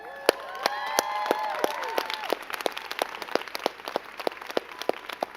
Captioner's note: crowd cheering and clapping